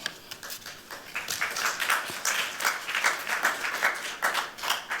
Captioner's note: applause